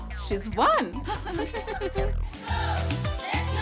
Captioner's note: Ms. Bot laughs